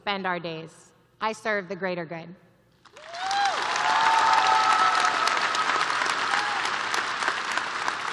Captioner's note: cheers and applause